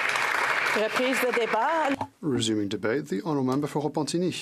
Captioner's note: some Applause